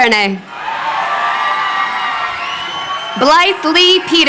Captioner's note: crowd cheering